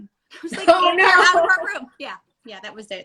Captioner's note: laughing